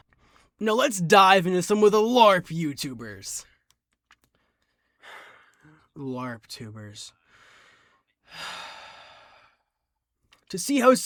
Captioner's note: sigh